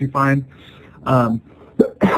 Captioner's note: sneeze